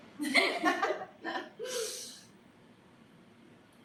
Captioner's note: both laughing